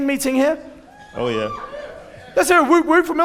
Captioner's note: audience cheering